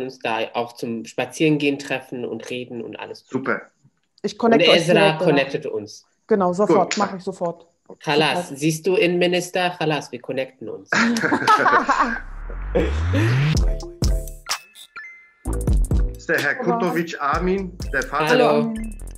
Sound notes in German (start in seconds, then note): 10.9 Lachen; 11.1 klatscht in die Hände